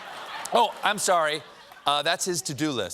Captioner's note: laughter